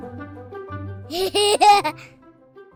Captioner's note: laughter